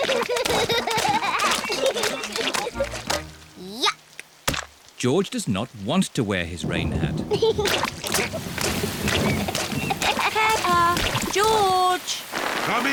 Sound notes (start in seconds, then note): 0.0 both giggling; 6.6 thunder rumbling; 7.5 giggling